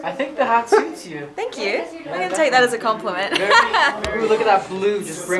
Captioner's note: laughs